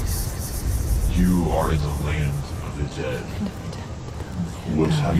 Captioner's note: whispering, "The Land of the Dead"